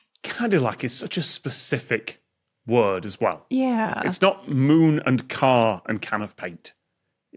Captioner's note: none